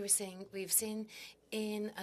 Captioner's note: speaking French